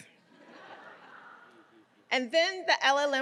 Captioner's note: audience laughing